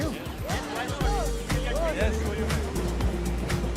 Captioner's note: chatter